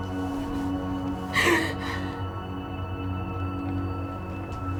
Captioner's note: sobbing and heavy breathing